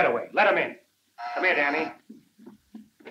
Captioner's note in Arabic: صوت الباب